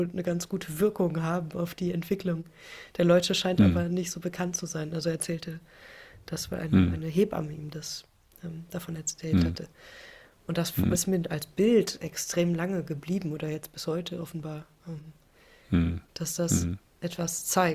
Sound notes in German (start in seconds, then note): 9.3 räuspern; 16.5 räuspern